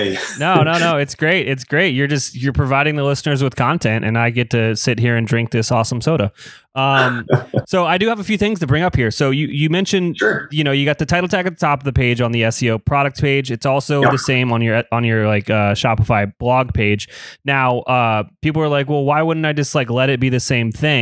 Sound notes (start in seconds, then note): 0.0 laughs; 6.9 laughs